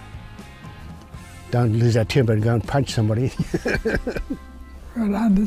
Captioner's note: laughs